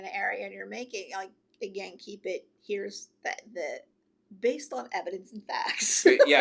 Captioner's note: laughs